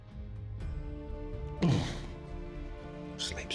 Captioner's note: shivers in disgust; whispering